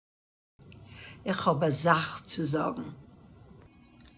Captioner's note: Yiddish; Cantonese